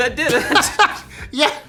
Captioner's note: laughing